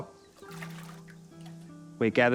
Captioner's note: water sloshes